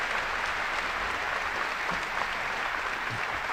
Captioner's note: applause